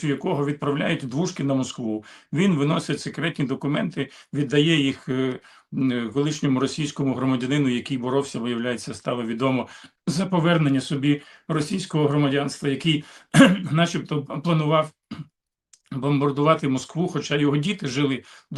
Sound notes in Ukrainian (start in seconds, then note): 13.3 прочищення горла